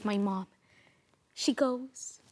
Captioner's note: sharp inhale